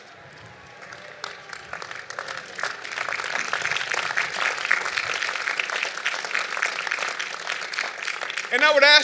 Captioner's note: applause